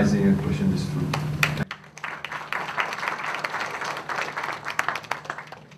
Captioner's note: applause